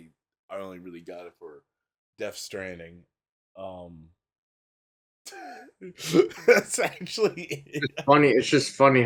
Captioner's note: laughs